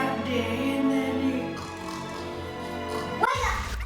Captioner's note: snoring